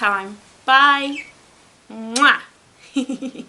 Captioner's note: giggles